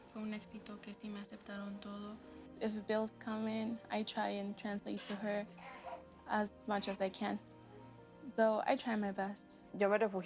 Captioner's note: speaking world language